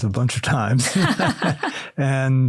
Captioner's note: laughter